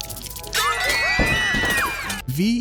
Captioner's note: all screaming